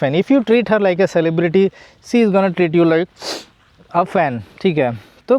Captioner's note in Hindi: नाक से की जाने वाली आवाज़